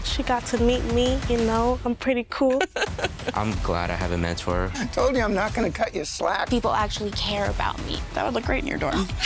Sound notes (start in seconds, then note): 2.4 laughing